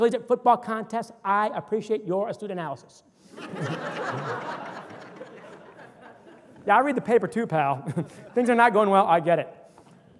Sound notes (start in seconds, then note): 3.3 audience laughter